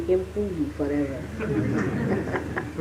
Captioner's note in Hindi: laughter; हँसी